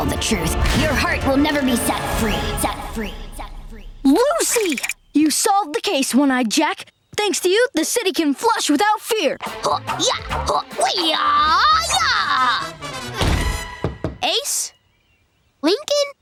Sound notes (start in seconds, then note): 2.5 echoing; 9.2 grunting; 13.0 knocking